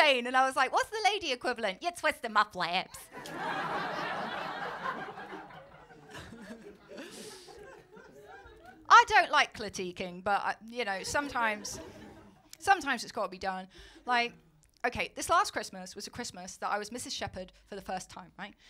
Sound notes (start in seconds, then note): 1.9 american accent; 3.0 laughter